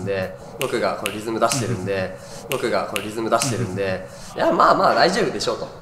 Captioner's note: snaps; snaps